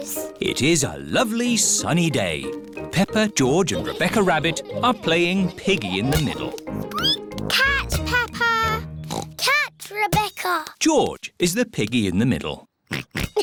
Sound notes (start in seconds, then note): 6.5 squeaks; 9.0 oinks